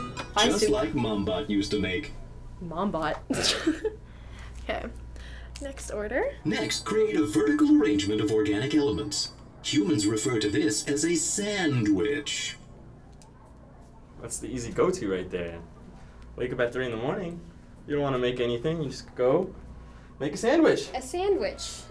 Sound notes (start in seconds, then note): 3.3 giggling